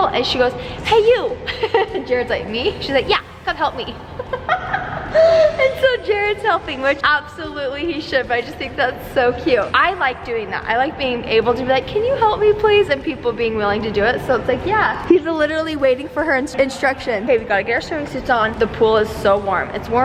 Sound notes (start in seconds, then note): 3.8 laughs